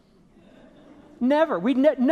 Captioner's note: audience laughing